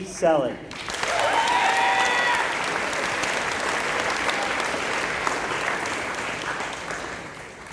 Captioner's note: applause